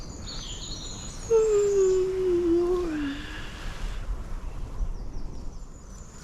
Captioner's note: yawn